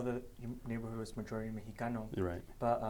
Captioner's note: speaking foreign language